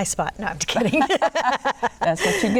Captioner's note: laughter